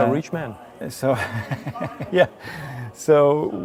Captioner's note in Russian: смеется